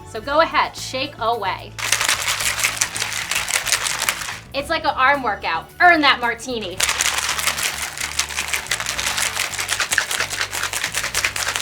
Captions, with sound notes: So go ahead, shake away! (ice and cocktail shaker clinking) It's like an arm workout, earn that martini! (ice and cocktail shaker clinking)